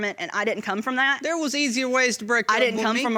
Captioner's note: audience applauding